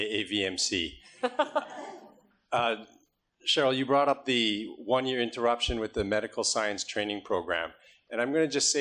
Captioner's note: laughter